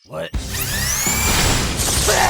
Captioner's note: sound of an industrial, high-powered, turbo-spin dildo